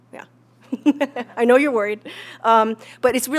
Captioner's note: laugh